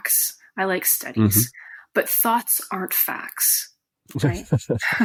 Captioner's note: giggles